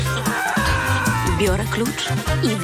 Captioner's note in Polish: krzyki spłoszonego dozorcy